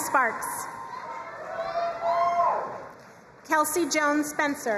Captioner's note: crowd cheering and applauding